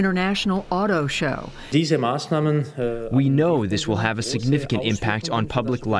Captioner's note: through translator